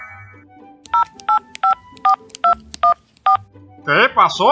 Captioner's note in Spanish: Teléfono